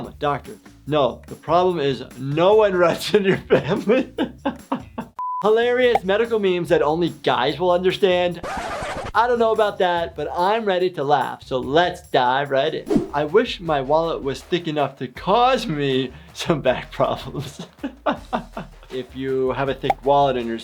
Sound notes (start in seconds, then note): 3.4 laughing; 8.4 record scratching; 17.6 laughs